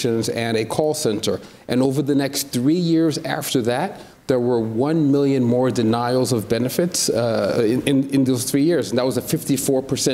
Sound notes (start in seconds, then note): none